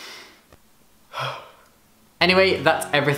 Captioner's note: heavy sigh